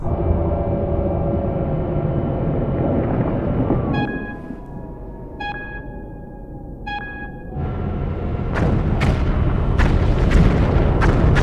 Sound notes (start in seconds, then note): 5.5 alert beeping; 8.5 explosions